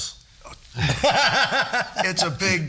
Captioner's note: all laughing